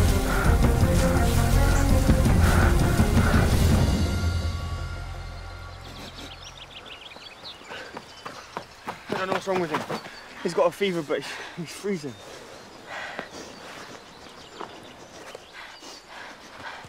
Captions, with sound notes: [sniffs] I don't know what's wrong with him. He's got a fever but he's freezing. [sniffing]